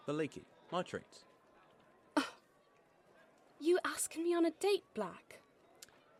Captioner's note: she lets out a huff of laughter